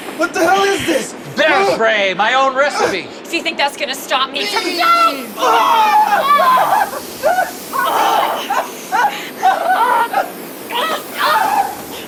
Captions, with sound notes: What the hell is this? Bear spray. My own recipe. Do you think that's gonna stop me? [More very pained yelling. Turns out bear spray really stings] Carm! This way! [Yup they're still screaming]